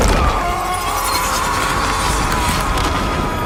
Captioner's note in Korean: 비명